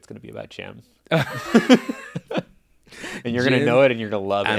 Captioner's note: laughing